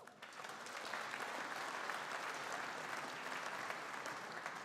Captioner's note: audience applauding